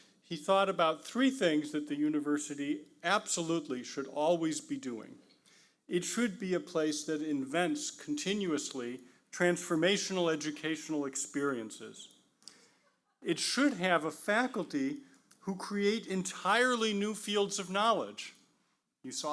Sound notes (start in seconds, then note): none